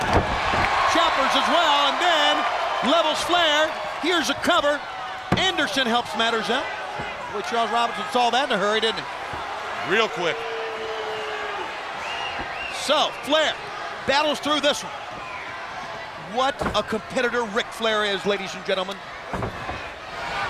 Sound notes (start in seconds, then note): 0.0 Ric thudding on ring; 6.3 countdown thudding; 10.9 crowd cheering